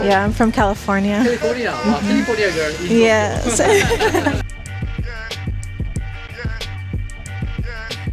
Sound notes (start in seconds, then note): 3.7 laughter